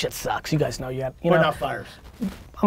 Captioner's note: pat